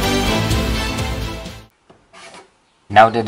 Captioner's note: pen sound